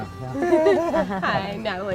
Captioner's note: laughs